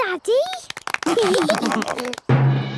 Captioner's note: clapping, laughing